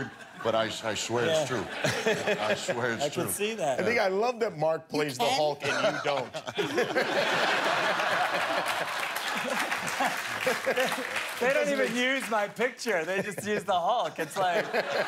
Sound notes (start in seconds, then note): 7.7 laughter